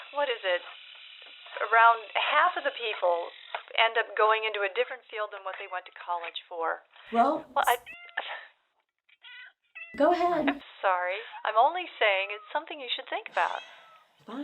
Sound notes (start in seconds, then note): 8.2 cat meowing